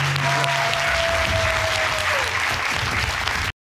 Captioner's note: audience cheering and applauding